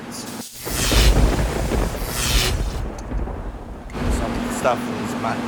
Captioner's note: electricity buzzing